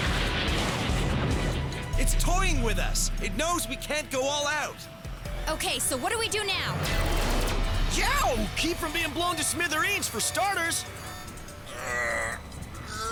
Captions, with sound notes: (WEAPONS FIRE, EXPLOSIONS) IT'S TOYING WITH US. IT KNOWS WE CAN'T GO ALL OUT. OKAY, SO WHAT DO WE DO NOW? (LASER BLASTS) YOWW! KEEP FROM BEING BLOWN TO SMITHEREENS, FOR STARTERS.